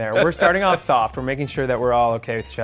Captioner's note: laughs